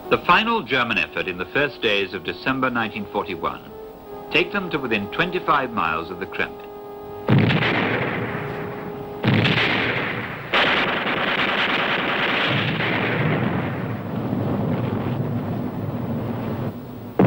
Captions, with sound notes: The final German effort in the first days of December 1941, take them to within 25 miles of the Kremlin. (explosions booming) (gunfire thundering)